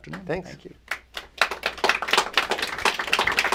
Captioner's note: applause